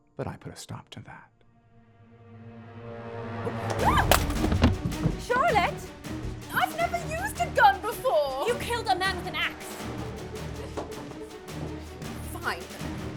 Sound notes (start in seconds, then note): 3.6 gun falls; 3.8 Charlotte gasps